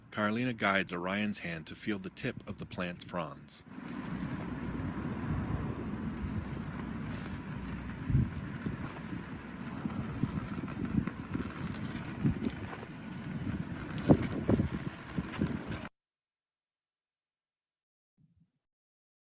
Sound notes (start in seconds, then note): 4.3 cane rattling; 13.2 wind whooshing